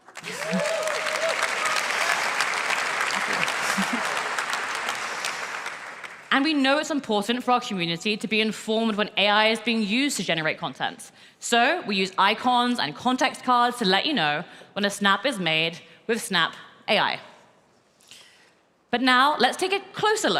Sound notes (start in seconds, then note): 5.8 applause